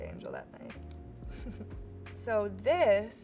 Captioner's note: chuckles